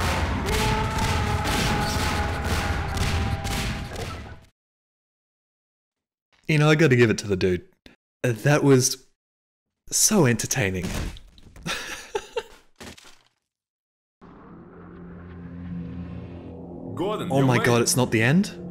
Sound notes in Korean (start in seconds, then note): 11.6 웃음